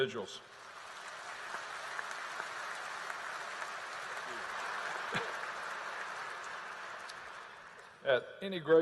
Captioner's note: applause